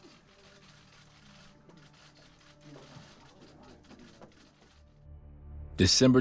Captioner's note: muffled chatter; tense music